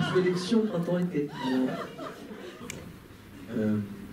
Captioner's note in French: rires